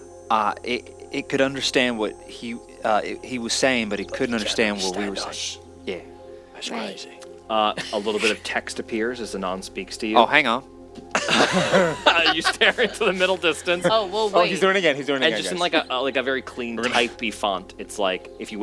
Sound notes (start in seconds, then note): 11.1 laughs at Southern Drawl